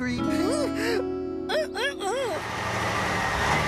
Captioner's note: gasps; engine Running